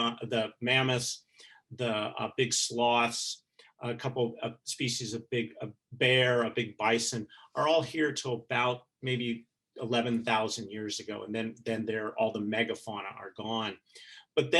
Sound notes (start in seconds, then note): none